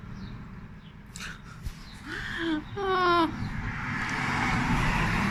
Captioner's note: laughing